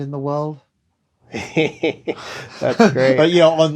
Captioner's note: laughter